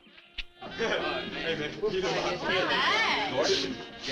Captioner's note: teens chatting